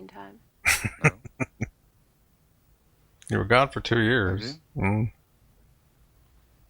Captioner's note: chuckling